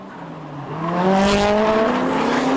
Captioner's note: drifting noises